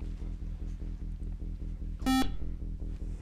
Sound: buzzer

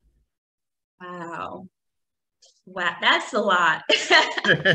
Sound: overlapping laughter

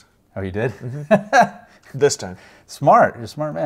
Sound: laughs

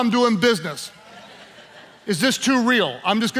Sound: laughing

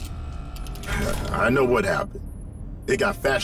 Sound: chortles

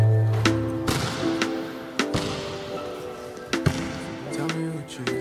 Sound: basketball bouncing

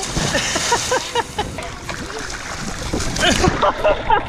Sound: laughter

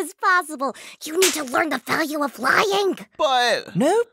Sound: whispers angrily, slap

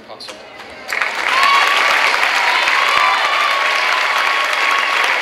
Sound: clapping and cheering

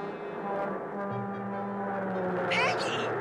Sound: train horn blaring

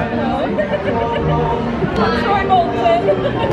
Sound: giggling

